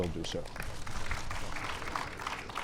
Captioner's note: applause